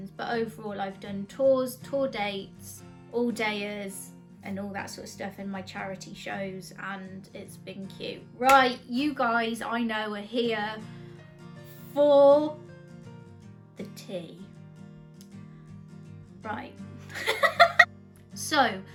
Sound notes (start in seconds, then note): 8.4 claps hands; 17.2 laughs